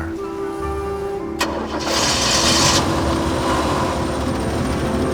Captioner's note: engine starting